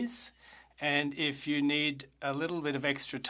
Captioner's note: speaking French